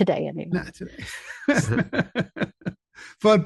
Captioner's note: chuckling